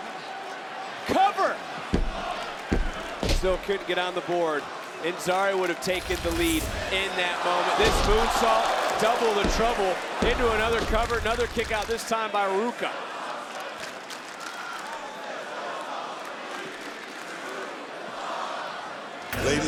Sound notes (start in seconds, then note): 12.4 crowd chants "This is awesome"; 19.4 gong rings